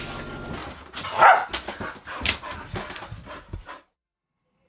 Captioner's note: dogs barking